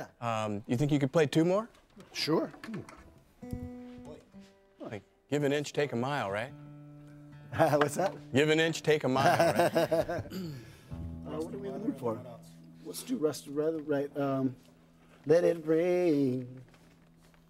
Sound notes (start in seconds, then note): 9.1 laughs